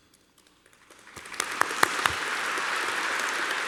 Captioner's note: applause